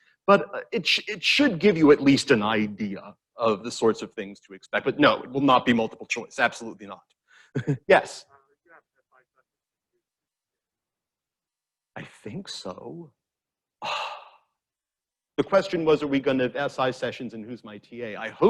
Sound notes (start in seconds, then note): 9.0 student speaks faintly; 13.8 sighs